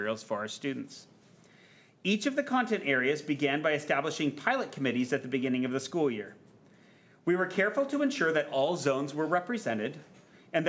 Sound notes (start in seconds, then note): none